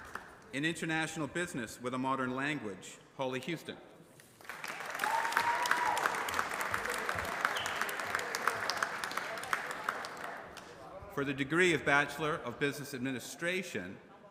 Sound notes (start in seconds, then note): 0.0 applause; 4.3 applause